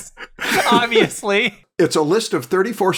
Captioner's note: laughter